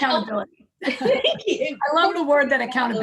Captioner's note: laughter